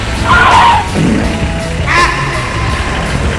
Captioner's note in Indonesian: berteriak